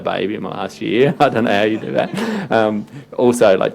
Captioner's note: laughing